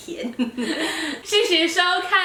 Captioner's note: laughter